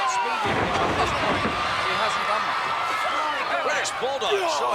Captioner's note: body thudding